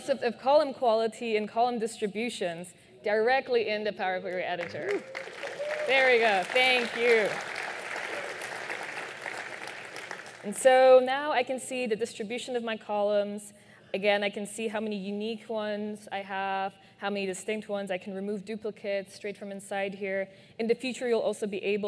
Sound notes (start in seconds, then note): 9.2 applause